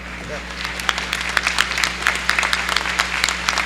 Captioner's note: applause